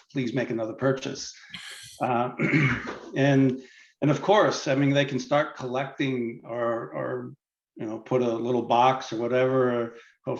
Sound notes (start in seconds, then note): 2.3 clears throat